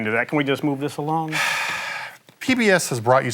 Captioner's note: sighs